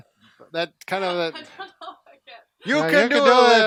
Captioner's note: laughing